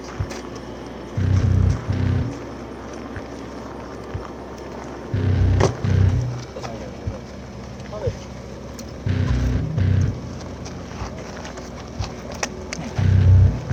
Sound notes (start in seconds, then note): 3.2 sounds of feet moving on road